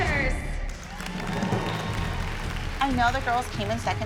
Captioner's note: applause and cheering